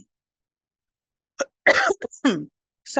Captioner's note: coughs